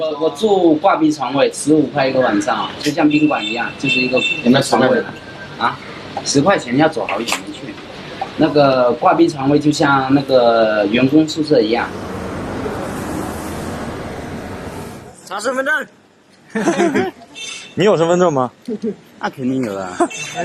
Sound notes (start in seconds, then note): 16.4 laughs